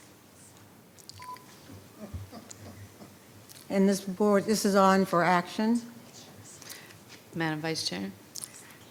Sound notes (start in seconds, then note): 2.2 laughing; 5.9 speaking faintly